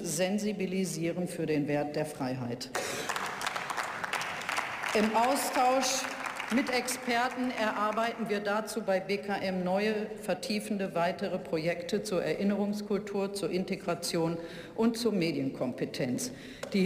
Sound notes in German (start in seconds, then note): 2.7 Beifall